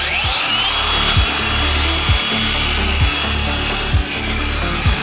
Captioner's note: tool buzzing